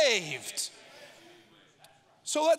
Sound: audience muttering

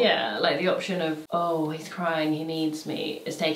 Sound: none

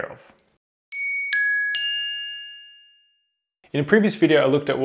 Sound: twinkling bells

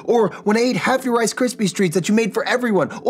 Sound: none

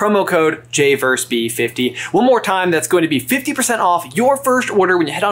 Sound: none

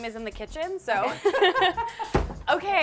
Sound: laughs

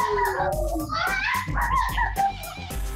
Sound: laughter

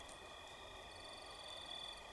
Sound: insects chirp

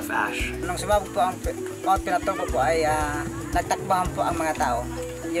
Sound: speaking in foreign language

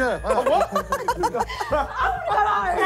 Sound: laughing

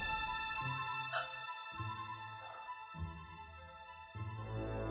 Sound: woman gasping

